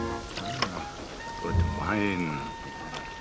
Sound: wine pouring

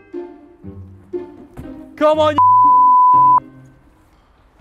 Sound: beep

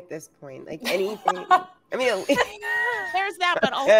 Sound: laughs

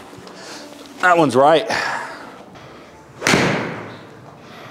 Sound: exhales; ball thuds

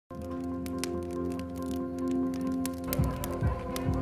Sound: fire crackling; uplifting music; crowds talking

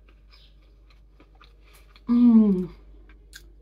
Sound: chewing

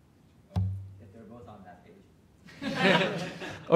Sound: laughter

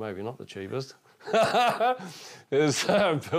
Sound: laughing

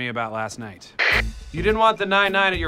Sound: walkie talkie static

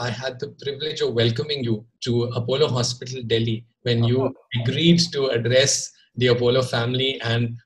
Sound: Sadhguru laughs

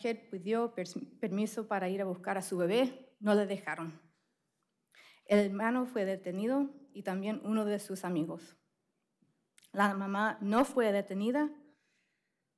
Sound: speaking spanish

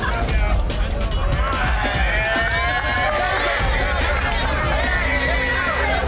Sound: cheers

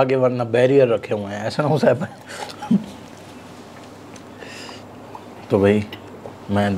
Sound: laugh

